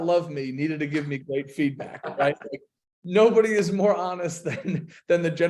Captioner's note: laughs